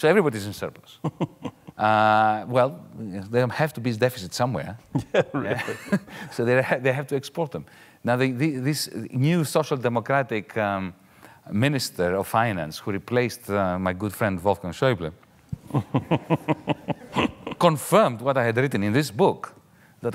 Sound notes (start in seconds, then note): 15.6 laughing lightly